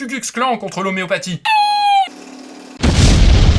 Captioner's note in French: vibrations; énorme explosion; rire